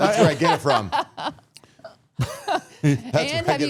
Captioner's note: all laughing